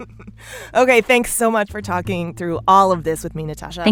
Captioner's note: laughter